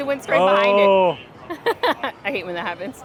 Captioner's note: laughs